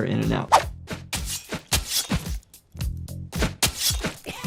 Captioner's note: knife slashes